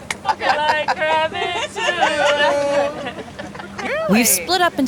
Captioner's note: laughing